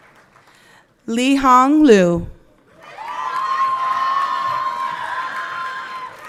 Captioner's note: everyone cheering